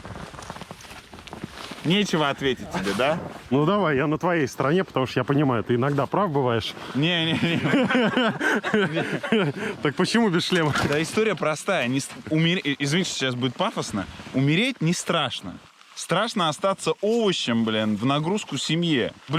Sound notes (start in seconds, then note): 7.2 everyone laughing